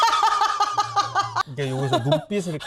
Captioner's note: laughing